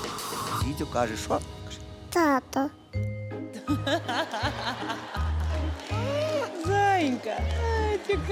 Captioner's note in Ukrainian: сміх